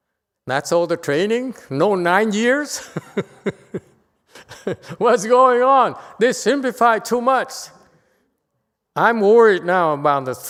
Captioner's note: laughter